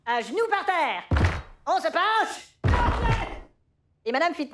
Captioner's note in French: Cri